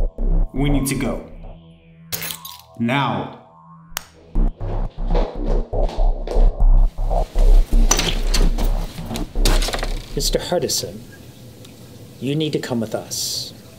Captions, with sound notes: - We need to go. (keys jingling) Now. (door opens) - Mr. Hartessan? You need to come with us.